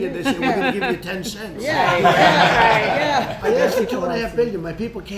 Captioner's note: laughter